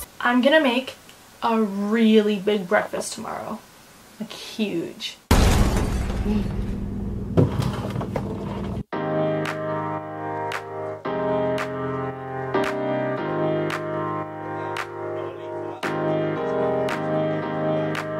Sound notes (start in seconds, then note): 5.3 shattering